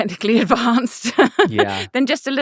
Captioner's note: laughing